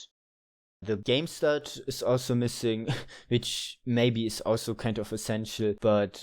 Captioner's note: laugher